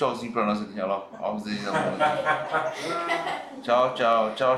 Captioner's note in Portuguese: risos